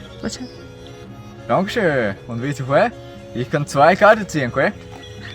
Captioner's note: low german accent